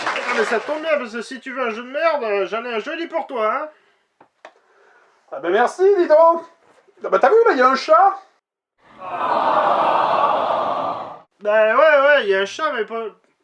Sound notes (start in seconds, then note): 8.9 tenderized crowd cry